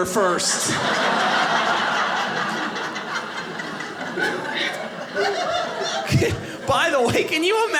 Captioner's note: audience laughing